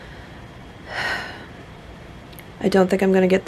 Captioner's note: soft sigh